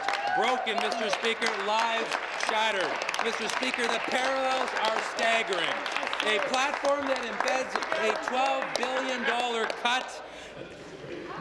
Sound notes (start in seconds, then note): 0.0 applause